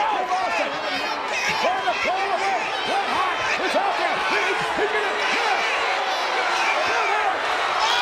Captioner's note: applause